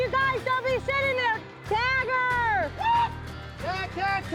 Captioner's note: yells